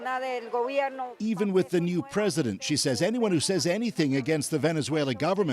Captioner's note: speaking alternate language